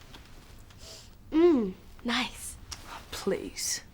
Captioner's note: sniffs